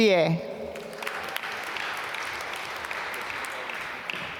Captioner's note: applause